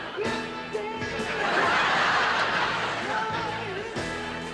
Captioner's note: audience laughing